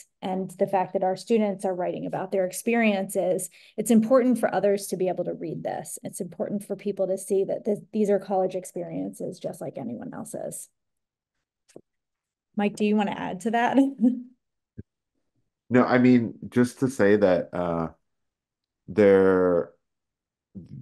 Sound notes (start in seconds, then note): 13.7 giggles